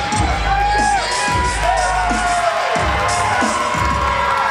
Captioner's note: cheering